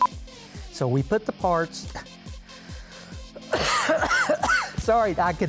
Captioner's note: coughs